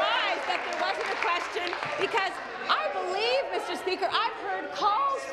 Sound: applause

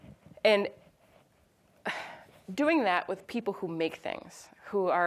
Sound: sighs

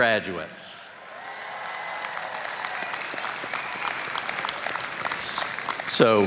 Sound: applause and cheering

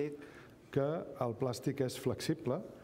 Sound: speaking catalan

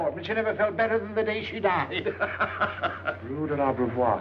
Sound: laughing

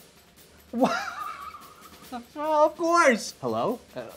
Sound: laughing

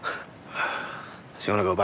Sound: chuckles

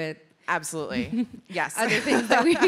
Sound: laughs

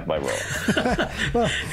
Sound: laughing

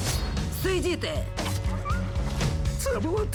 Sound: dog whimpers

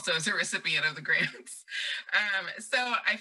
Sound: laughs

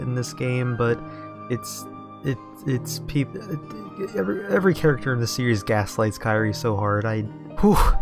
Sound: exhale

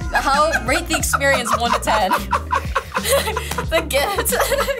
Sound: laughs

